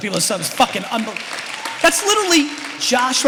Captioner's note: applause